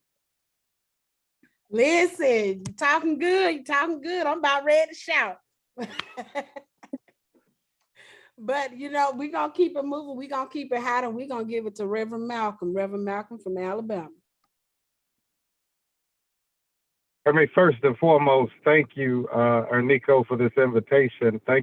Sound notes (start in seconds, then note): 5.8 laughs